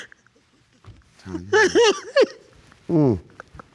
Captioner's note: continues crying